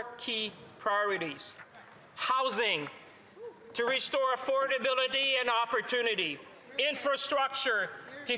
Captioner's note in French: voix de l'interprète